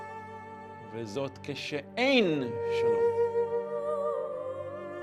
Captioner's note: speaking in Hebrew